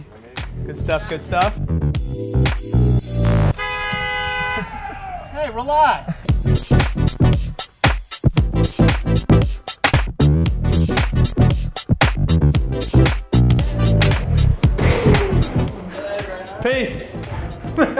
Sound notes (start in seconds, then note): 0.4 upbeat music; 3.4 car horn; 6.5 groovy techno music; 17.6 laughter